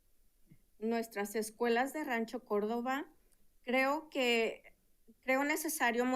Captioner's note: speaking in Spanish